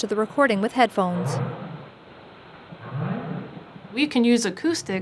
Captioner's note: whale calling